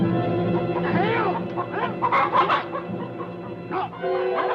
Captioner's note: soldier yelling; tense adventurous music